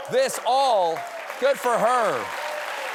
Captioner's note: cheers and applause